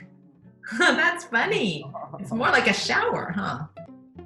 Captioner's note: laughs